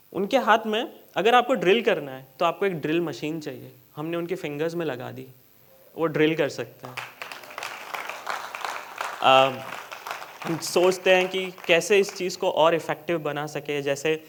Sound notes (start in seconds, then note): 6.8 applause